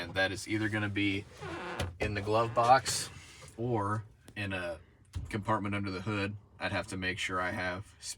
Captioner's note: glovebox creaking